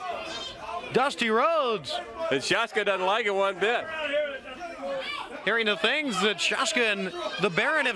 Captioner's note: crowd cheering